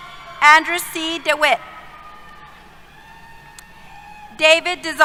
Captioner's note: cheers